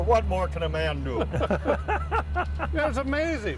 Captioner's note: laughs